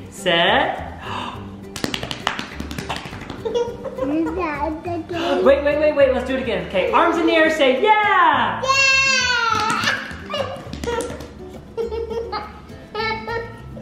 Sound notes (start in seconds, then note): 1.6 belly slapping; 3.3 laughing; 9.4 belly slapping; 11.7 laughing